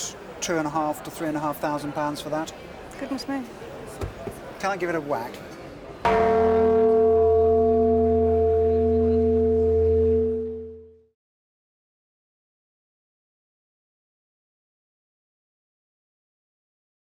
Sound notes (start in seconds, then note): 6.0 resonating bong